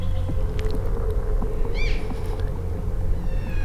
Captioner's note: caller cow calling